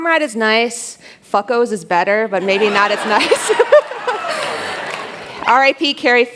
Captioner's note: laughter